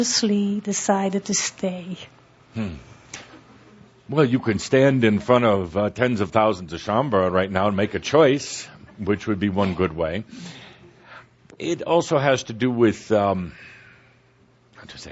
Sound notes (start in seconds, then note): none